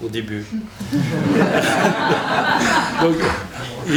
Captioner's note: laughter